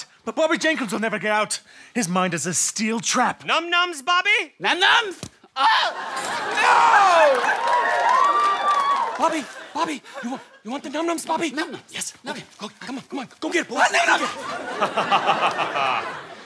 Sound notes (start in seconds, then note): 6.4 screams; 7.5 cheering; 13.8 laughs confidently